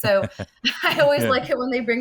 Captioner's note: laughs